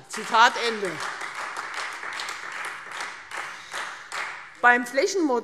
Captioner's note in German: Beifall Freie Demokraten